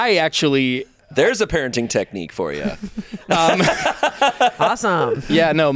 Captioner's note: laughs